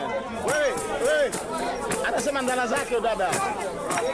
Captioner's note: speaks Swahili